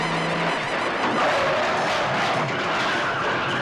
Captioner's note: tires squealing